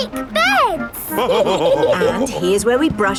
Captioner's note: all laughing